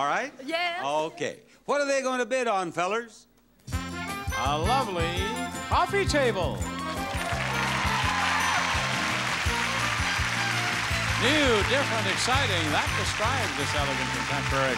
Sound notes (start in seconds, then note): 2.8 upbeat music; 6.7 audience cheering